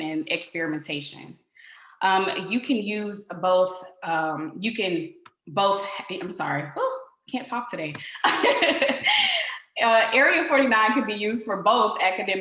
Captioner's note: laughter